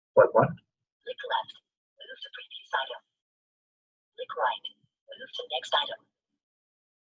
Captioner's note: system voice